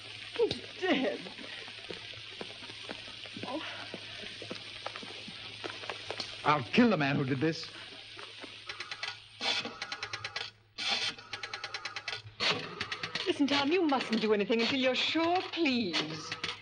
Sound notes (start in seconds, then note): 9.2 dial rattling